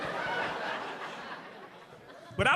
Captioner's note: audience laughing